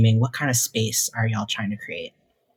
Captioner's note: none